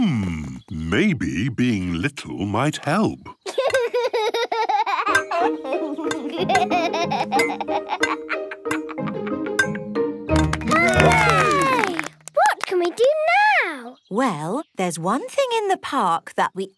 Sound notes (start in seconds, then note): 3.3 laughs; 10.4 all cheer